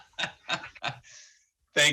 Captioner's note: laughter